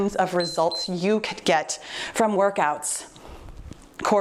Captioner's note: timer beeps